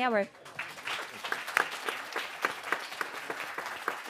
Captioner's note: audience applauds